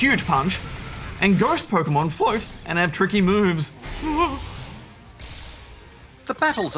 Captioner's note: whimpers